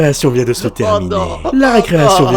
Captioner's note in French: sanglots